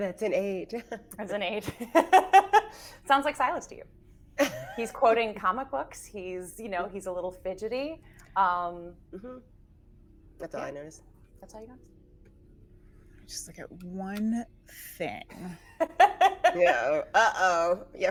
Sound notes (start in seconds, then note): 2.5 laughing; 15.5 laughing